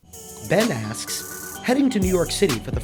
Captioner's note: voiceover